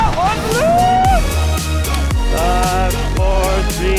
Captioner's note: man whooping